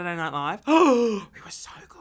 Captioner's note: gasping